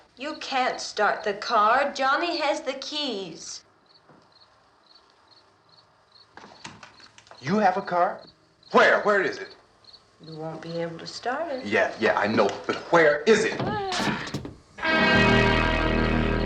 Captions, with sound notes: You can't start the car. Johnny has the keys. You have a car? Where? Where is it? - You won't be able to start it. - Yeah. Yeah, I know. - But where is it? - [ GROANING ]